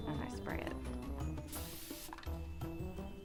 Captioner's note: spraying sound